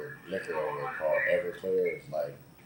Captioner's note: none